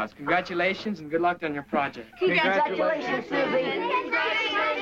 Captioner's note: group chatter